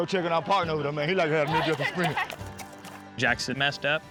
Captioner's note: laughter